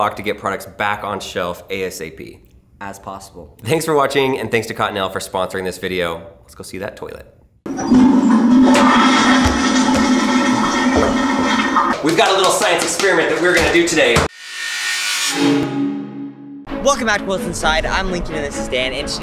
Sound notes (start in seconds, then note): 7.6 toilet flushing; 14.3 electronic music